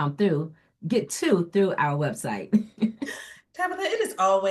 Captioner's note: chuckles